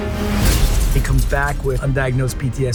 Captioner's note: mirror shattering